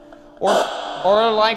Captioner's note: device hisses and thrums